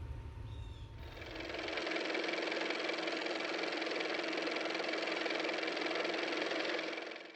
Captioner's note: car motor